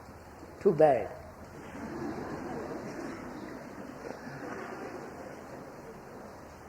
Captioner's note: laughter